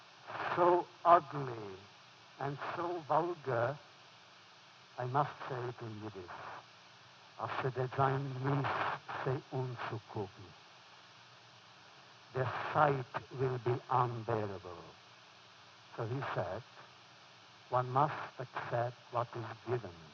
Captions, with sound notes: so ugly, and so vulgar,” I must say it in Yiddish (foreign language), “Their sight will be unbearable.” So, he said, “One must accept what is given,